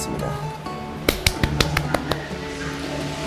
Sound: clap

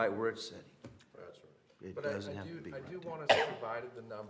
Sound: cough

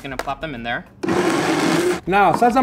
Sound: blender whirs

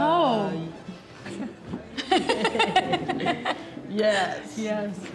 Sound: laughs

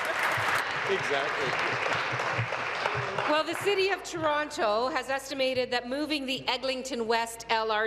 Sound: applause

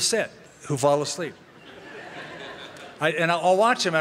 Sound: laughter

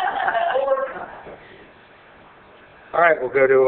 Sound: all laughing

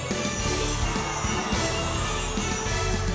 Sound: cheering

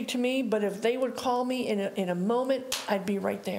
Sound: hands slapping

